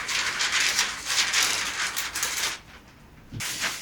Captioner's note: crinkling paper